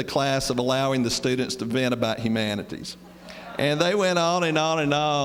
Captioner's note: laughter